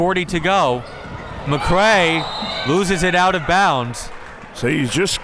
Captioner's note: whistle tweeting